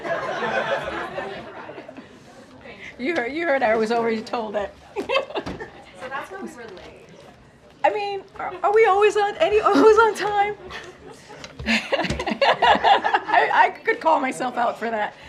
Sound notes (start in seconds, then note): 0.0 laughter; 4.8 laughs; 10.6 laughter